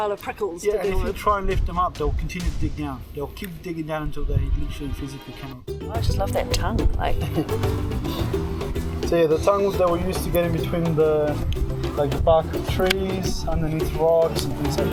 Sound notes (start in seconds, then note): 7.0 laughing; 13.9 jaunty music